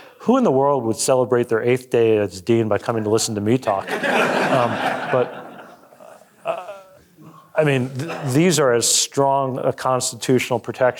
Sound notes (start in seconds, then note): 3.8 audience laughing